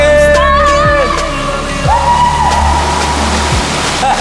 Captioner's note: yelling